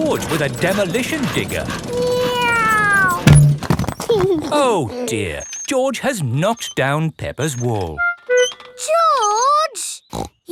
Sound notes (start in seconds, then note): 2.1 george imitates airplane; 4.3 george giggles